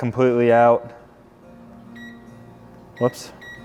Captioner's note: remote beeps